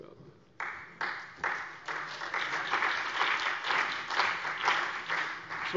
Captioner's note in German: Beifall CDU, BÜNDNIS 90/DIE GRÜNEN, vereinzelt AfD und Freie Demokraten